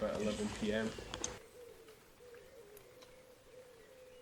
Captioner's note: bird calls can be heard below patter of rain